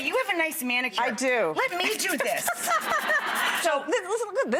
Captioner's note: laughing